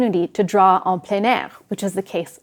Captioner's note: speaking French